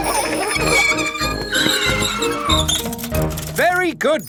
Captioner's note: giggling and ringing bells; tires screech